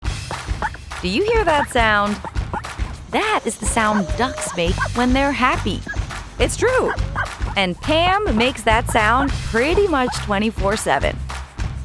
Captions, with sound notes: Do you hear that sound? [Pam chirping] That is the sound ducks make when they're happy. It's true! And Pam makes that sound pretty much 24/7,